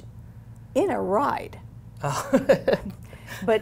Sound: laughs

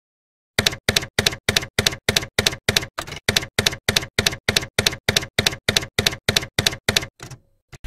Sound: typewriter keys clacking

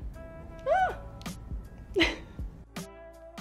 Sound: giggling

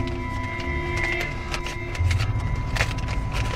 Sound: tense suspenseful music; paper rustling

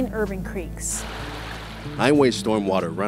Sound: sounds of Water from Creek

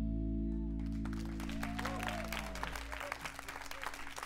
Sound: applause

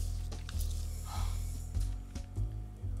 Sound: Veer sighs

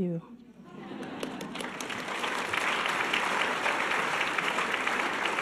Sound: audience laughing and applause

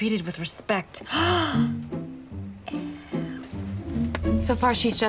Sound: gasps

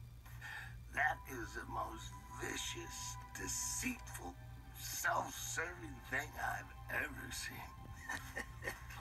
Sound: laughing

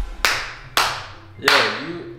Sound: dramatic music; laughing and clapping

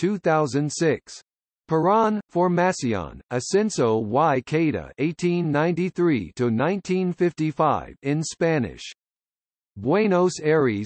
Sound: in Spanish

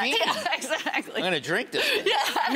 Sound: laughing

